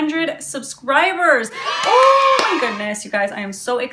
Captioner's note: kids cheering